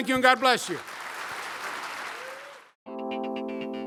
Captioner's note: applause; upbeat music